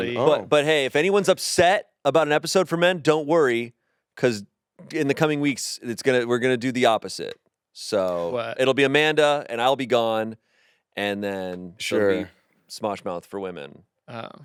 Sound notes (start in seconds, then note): none